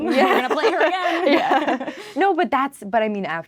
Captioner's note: laughing